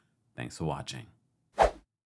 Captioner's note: air whooshes